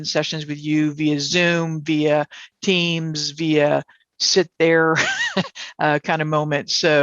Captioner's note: laughs